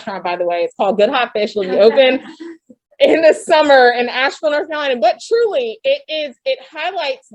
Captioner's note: laughter